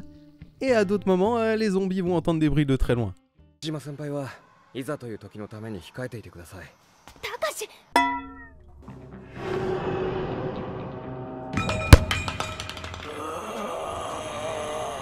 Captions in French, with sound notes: et à d'autres moments à les zombies vous entendre des bruits de très loin... ( son d'une batte de baseball qui tombe au sol )